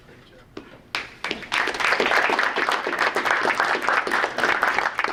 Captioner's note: group applauding